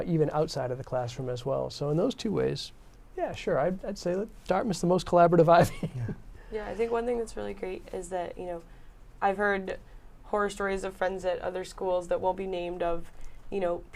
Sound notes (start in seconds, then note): 5.6 laughs